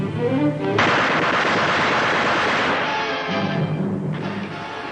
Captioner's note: exciting music; gunshots; exciting music